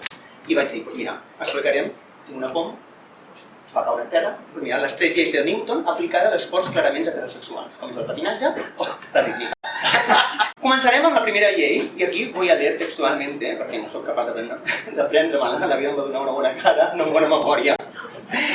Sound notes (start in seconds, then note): 8.8 laughs